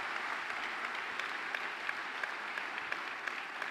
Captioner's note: applause